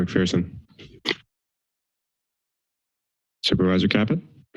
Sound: silence

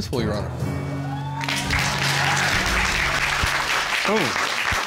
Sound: applause

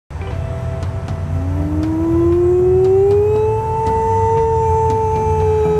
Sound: mimicking wolf howl

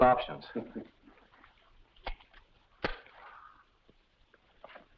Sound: match striking

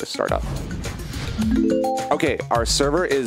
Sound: whoosh noise; dinging noise

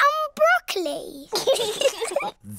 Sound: both giggle

